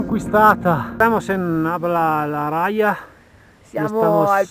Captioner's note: spanish